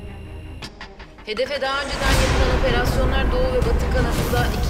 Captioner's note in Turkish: Gökçe dış ses